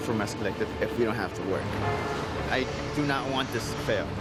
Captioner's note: car horn honks